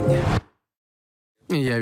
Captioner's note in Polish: nagła cisza